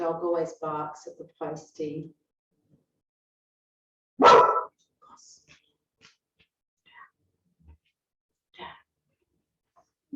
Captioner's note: woof